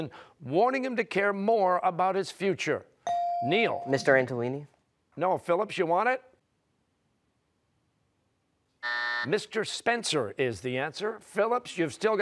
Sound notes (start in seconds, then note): 8.8 buzzer